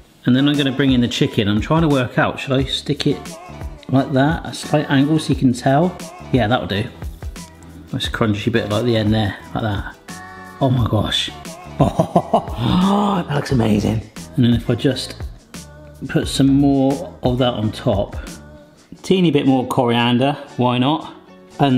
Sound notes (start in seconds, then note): 11.6 laughing; 12.4 gasping